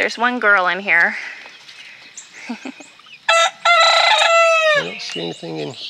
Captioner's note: crowing